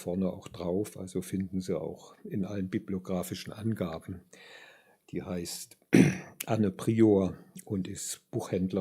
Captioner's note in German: räuspern